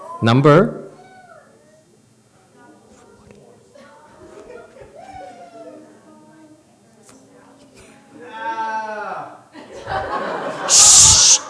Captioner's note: audience member groans